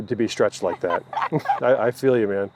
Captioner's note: laughs